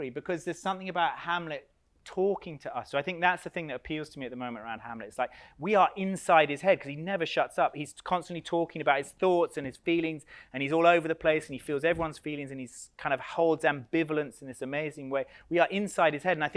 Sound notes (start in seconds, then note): none